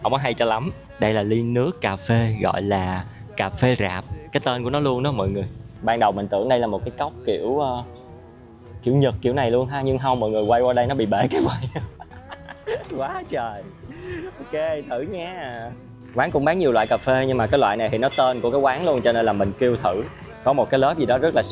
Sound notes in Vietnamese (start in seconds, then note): 11.2 tiếng cười